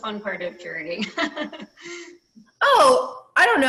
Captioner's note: laughs